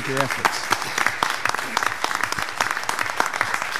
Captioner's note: applauding